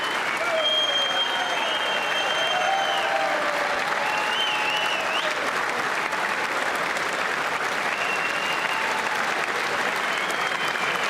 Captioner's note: applause